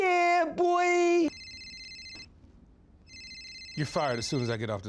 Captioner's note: cell phone rings